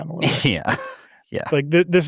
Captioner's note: laughs